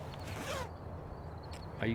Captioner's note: zipper closes